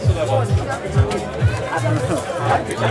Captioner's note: babble of voices